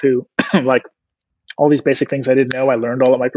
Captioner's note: clears throat